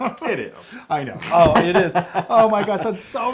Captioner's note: laugh